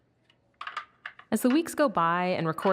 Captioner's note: batteries clicking